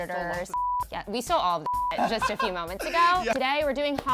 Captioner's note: beep